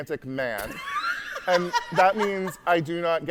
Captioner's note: hosts laughing